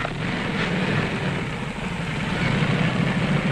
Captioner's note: engine roaring